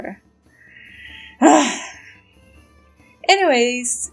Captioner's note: angry sigh